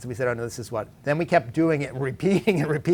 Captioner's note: laughs